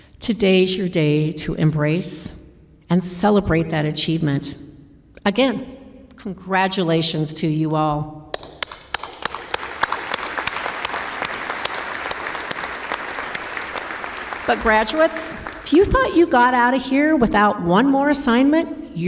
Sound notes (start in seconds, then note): 7.7 applause